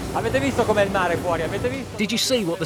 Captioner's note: speaking in foreign language